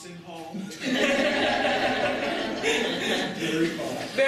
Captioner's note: audience laughter